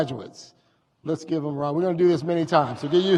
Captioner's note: audience cheers